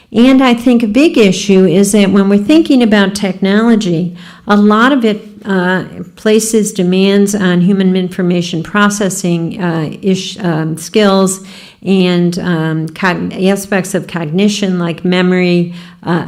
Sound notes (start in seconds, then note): none